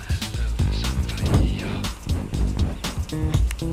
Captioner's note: flame roaring; bouncy music; clapping